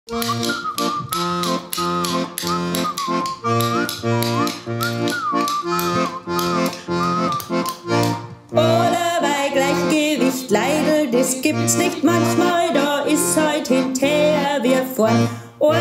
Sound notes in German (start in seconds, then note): 0.0 Pfeifen und Löffelschlagen